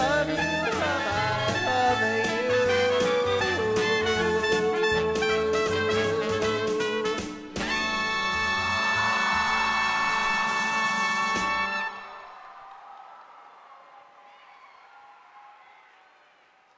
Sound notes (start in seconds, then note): 8.7 cheering